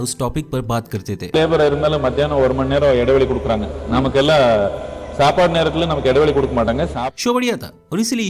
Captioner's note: Sadhguru talking in Tamil